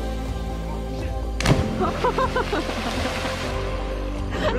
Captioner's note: laughing